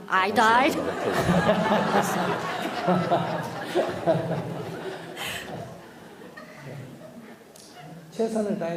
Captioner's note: /Audience Laughter